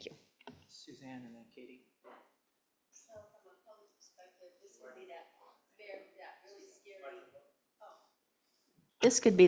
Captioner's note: speaker off mic